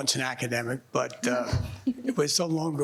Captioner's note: panelists laughing